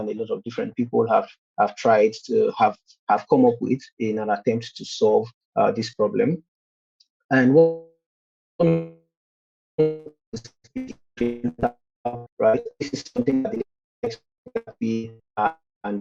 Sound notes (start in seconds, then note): 11.2 distorted audio